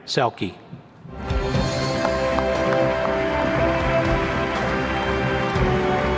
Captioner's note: inspirational music; audience applauds